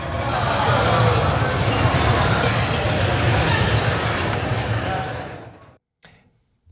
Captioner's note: laugh